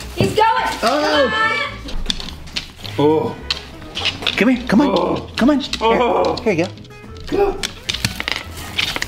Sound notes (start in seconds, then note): 2.9 groans